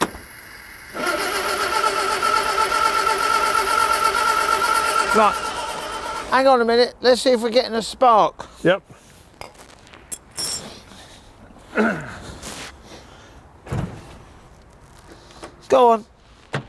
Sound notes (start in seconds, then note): 0.0 engine rumbling